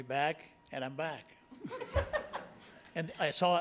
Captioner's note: board members laughing